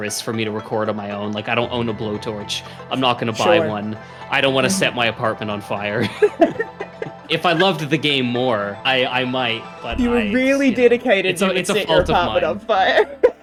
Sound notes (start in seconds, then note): 4.3 laugh; 12.8 laughs